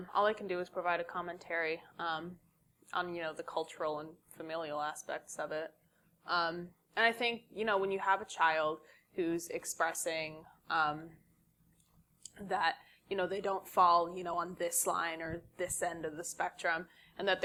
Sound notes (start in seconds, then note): none